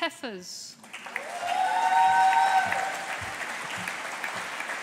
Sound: audience applauding

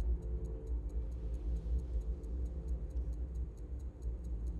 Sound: watch ticking

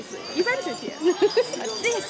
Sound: giggle

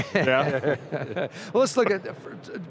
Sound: laughing

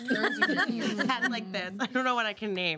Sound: girls laugh

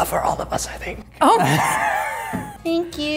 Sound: laughs

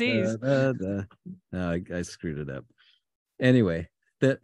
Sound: hums

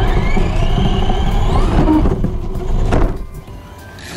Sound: engine revving

